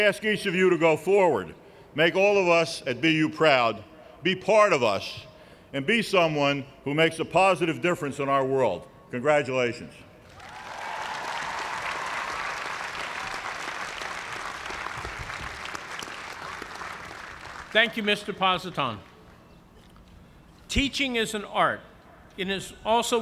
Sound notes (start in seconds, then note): 10.2 cheers and applause